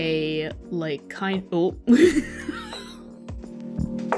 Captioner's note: laughs wheezingly